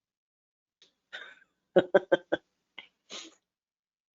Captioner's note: laughs